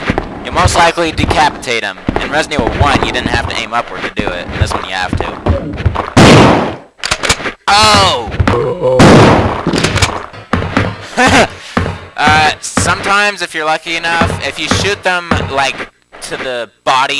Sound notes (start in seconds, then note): 11.1 troll laugh